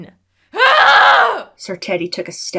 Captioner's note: angry Screaming